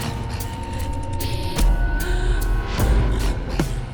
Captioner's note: counter ticking